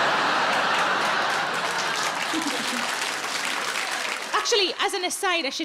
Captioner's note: audience laughs; audience applauds